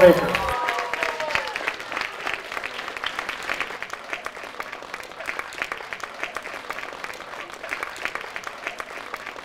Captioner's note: applause